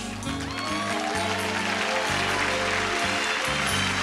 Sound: applause

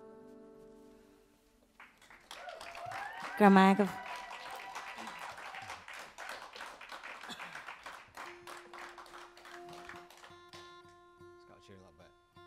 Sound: applause

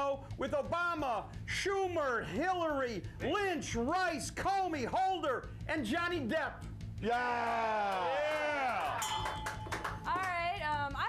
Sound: audience cheers; bell rings

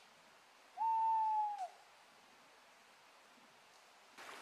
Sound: owl cooing

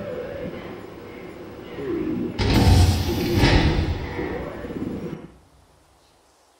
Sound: door slams shut

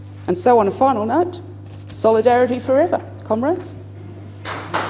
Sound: applause

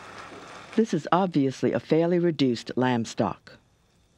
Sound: voiceover

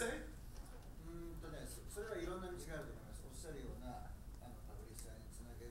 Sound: speaking in foreign language

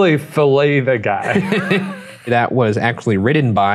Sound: both laughing

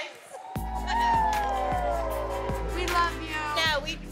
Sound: crowd cheering

